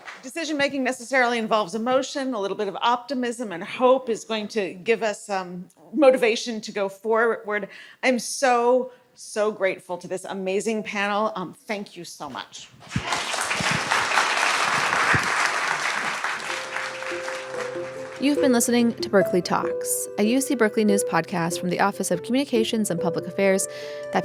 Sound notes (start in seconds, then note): 16.1 applause